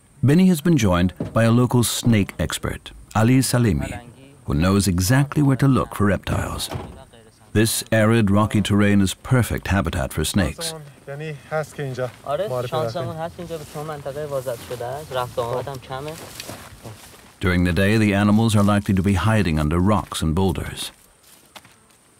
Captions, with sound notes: Benny has been joined by a local snake-expert, Ali Salemi, who knows exactly where to look for reptiles. This arid, rocky terrain is perfect habitat for snakes. [they speak Farsi] During the day, the animals are likely to be hiding under rocks and boulders.